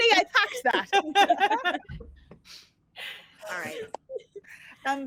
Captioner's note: all laugh